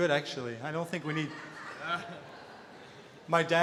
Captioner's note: audience laughter